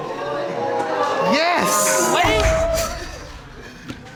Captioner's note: audience gasping